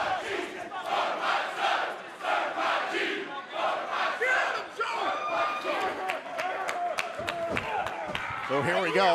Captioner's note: fans chanting